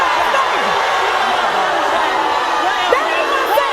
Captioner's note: audience booing